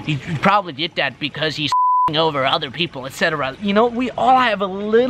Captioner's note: beep